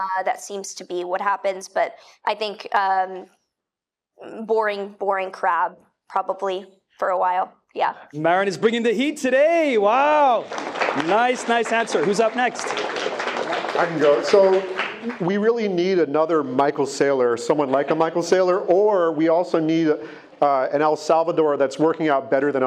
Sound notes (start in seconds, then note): 9.6 attendees clapping